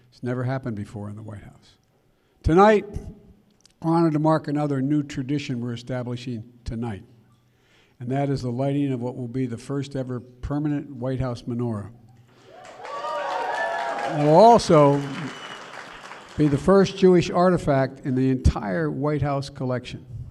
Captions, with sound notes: It's never happened before in the White House. Tonight, we're honored to mark another new tradition we're establishing tonight. And that is the lighting of what will be the first-ever permanent White House menorah. (Applause.) It will also be the first Jewish artifact in the entire White House collection.